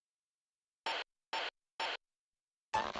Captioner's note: radio buzzing